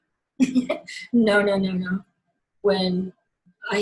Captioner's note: laughs